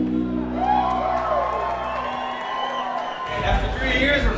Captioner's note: crowd cheers